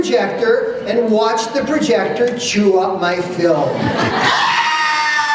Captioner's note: laughter